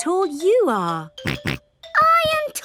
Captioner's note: snorts